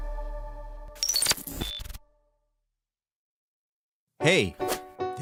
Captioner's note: upbeat music fading; electricity buzzing